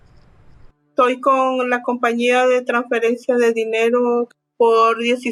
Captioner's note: speaks Spanish